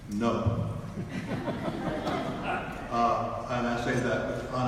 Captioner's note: audience laughs